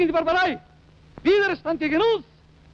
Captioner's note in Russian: говорит по-немецки